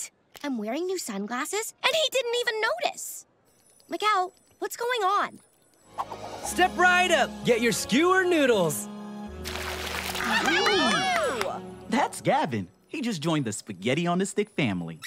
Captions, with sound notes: I'm wearing new sunglasses, and he didn't even notice. Miguel, what's going on? Step right up! Get your skewered noodles! [cheering] That's Gavin. He just joined the Spaghetti on a Stick family.